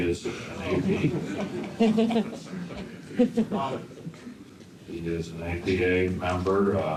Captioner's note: laughter